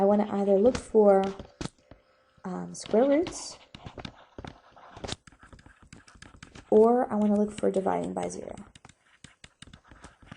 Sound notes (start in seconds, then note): 4.1 stylus writing on board